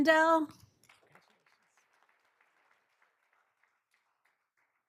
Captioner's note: all applauding